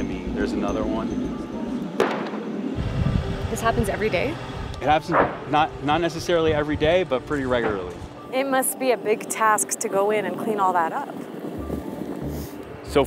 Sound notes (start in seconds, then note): 2.0 bang